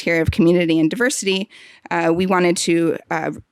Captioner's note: none